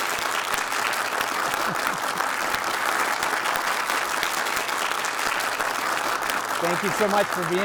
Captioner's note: audience applauding